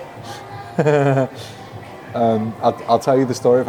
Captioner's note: chuckles